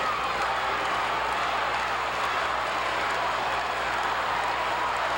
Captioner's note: audience applauding